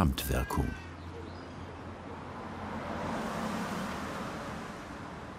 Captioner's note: bird voices, traffic noise